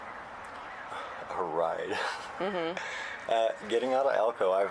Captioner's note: laughs